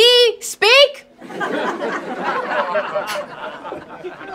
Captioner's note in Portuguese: Risos